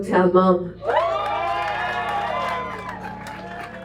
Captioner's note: applause